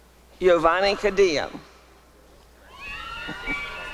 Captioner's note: applause and cheering